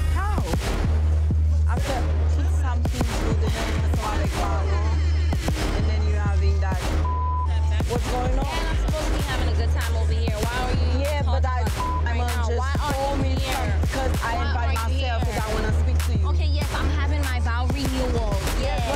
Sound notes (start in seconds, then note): 2.3 speaking foreign language; 6.9 beep; 11.6 beep